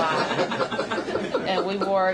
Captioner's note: laughter